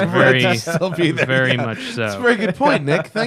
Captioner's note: laughter